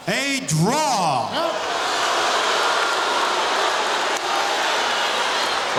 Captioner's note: audience shouting